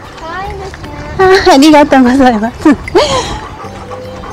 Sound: laughs

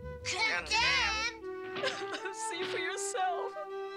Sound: sobs

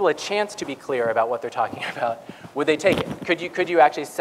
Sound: laugh

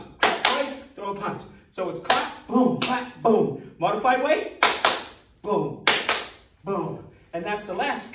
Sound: clap

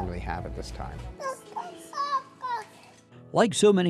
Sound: baby babbling

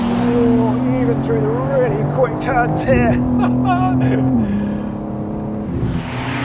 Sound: laughing

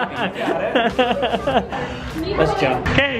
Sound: laughter

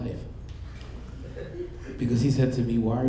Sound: audience laughing

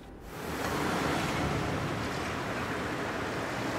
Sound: traffic humming

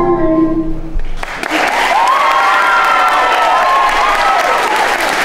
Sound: audience applauding

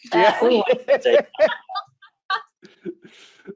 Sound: laughing

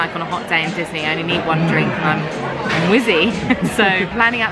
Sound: laughing

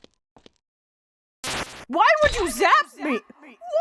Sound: magical zap

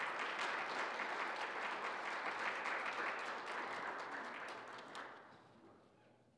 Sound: applause

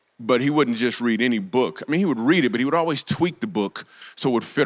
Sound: none

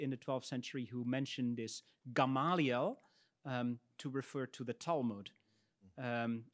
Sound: speaks in Latin

